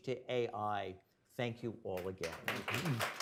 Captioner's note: applause